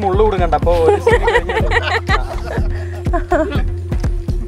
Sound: laughing

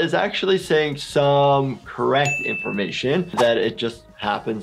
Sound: bell dings

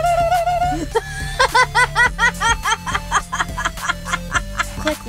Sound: laughter

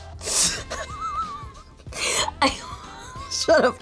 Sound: laughing

